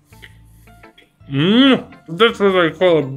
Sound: slavic approval

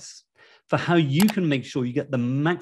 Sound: mouse clicking

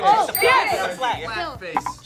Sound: bell dings

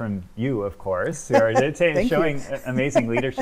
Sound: laughs

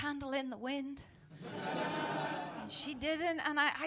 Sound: laughter

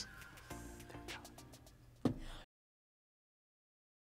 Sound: whispers

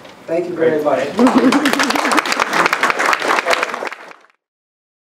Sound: applauds

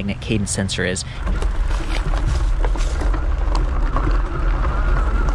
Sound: bike's motor whining

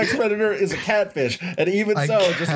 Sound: laughter

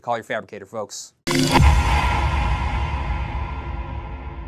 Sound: metallic crash

